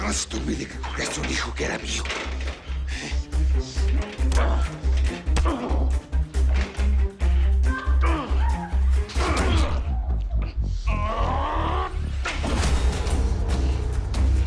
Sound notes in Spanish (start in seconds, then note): 5.0 Golpes; 7.6 Quejidos